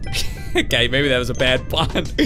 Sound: laughing

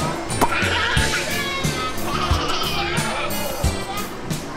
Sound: laugh

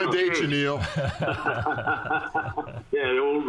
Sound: men chuckling

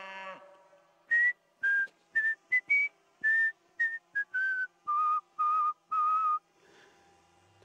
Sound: whistles

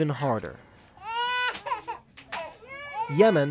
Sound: children crying

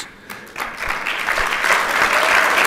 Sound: applause

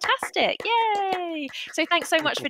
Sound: applause

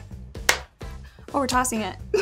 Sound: claps

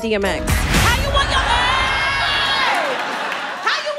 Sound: audience laughing

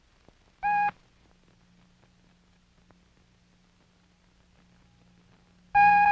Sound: short beep

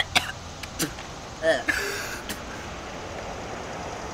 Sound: gagging

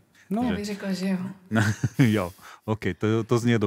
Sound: laughs

